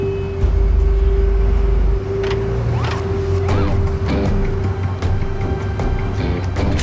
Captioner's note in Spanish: Ruido del vehículo